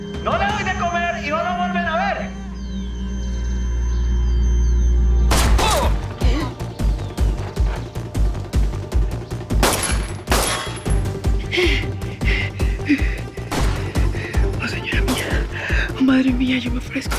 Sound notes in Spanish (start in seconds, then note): 5.3 Disparo; 9.5 Disparos; 11.3 Respiración agitada